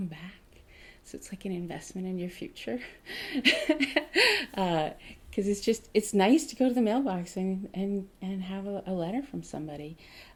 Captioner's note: laughing